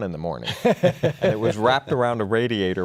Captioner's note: laughing